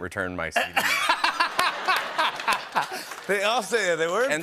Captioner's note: laughter